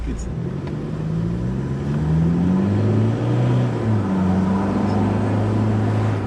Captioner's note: vehicle accelerating, engine revving